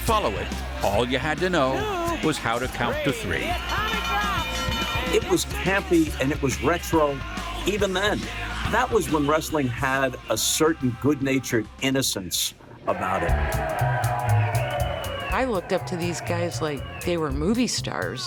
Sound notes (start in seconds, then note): 3.3 bell ringing; 13.0 bright cheerful music